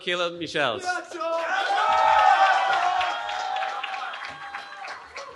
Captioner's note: cheering